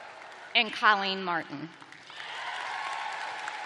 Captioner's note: cheers and applause